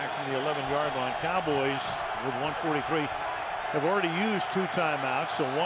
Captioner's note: crowd cheering